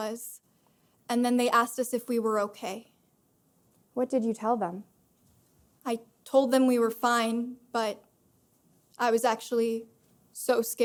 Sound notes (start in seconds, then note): none